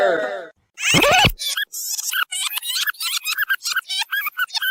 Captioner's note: fast rewind squeaking